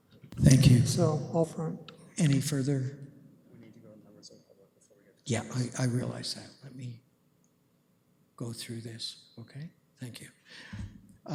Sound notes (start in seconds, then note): 4.9 comments off mic